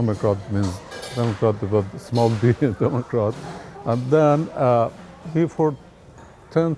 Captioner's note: laughs